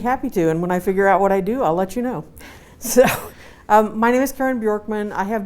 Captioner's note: laughs